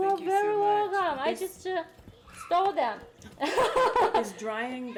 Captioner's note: laughing